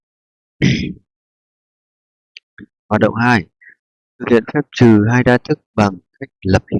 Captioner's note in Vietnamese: hắng giọng